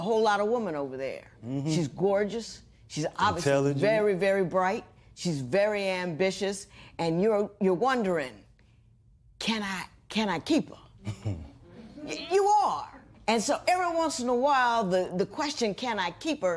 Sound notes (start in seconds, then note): 11.0 laughter; 11.0 chuckles